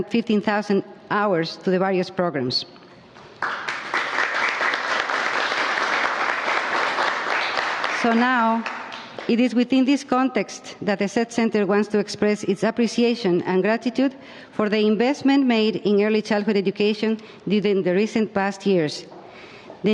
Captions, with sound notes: 15,000 HOURS TO THE VARIOUS PROGRAMS. [ APPLAUSE ] >> SO NOW IT IS WITHIN THIS CONTEXT THAT THE SED CENTER WANTS TO EXPRESS ITS APPRECIATION AND GRATITUDE FOR THE INVESTMENT MADE IN EARLY CHILDHOOD EDUCATION, IN THE RECENT PAST YEARS.